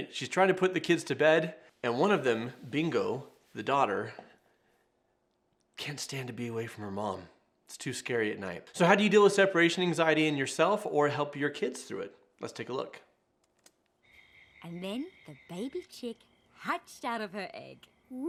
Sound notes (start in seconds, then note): 13.9 crickets chirping